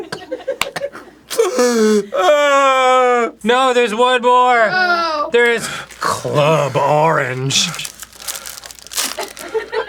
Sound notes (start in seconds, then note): 1.3 struggled inhale; 1.4 just crying now; 7.7 arin's labored breathing